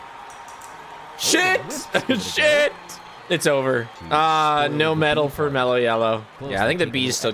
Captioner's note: laughs